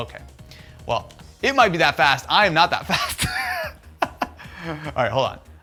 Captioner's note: laughs